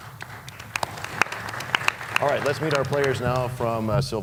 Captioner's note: applause